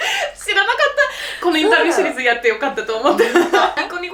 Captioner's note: laughs